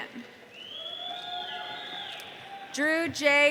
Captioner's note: audience cheering